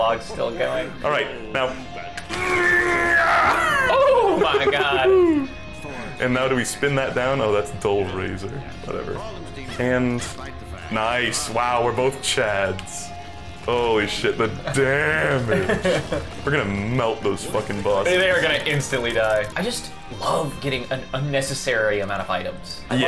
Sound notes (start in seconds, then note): 3.5 wheeze; 15.2 laughing